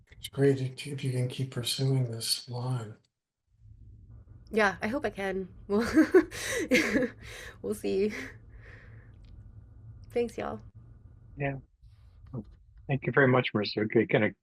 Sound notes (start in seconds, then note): 5.8 chuckles